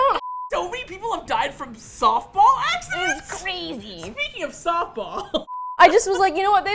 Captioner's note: laughs